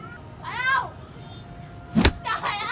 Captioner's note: A whip